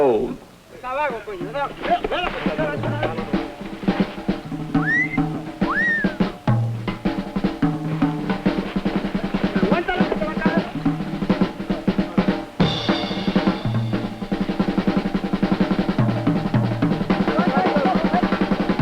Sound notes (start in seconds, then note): 0.3 chattering; 3.6 whistles; 18.6 whistles